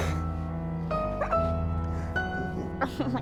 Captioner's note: Gabby laughing